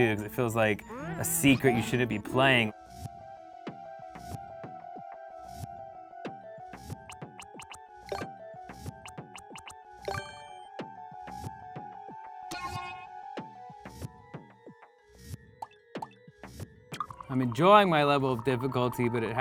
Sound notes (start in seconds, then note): 3.7 intense music; 7.1 popping